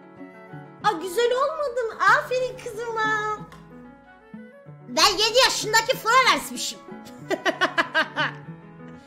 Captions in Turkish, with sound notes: A! Güzel olmadı mı ? Aferin kızıma. Ben 7 yaşındaki Florence'mişim. *çocuk sesi* *kahkaha*